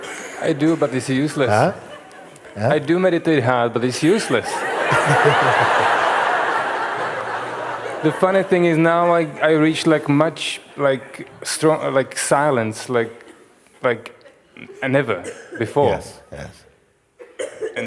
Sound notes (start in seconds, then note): 5.9 Lachen